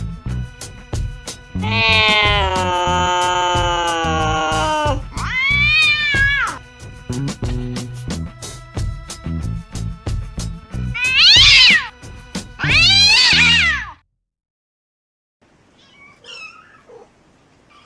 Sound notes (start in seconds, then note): 1.6 mewing; 10.8 yowling